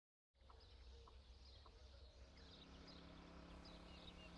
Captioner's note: birds chirping